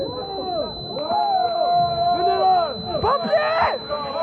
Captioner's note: foreign spoken audio